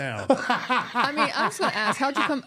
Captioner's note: laughing